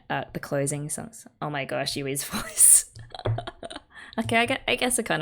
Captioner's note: laughs